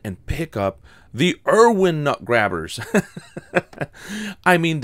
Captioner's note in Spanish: La risa